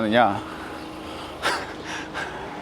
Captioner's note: haha